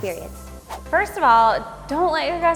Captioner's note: swooshing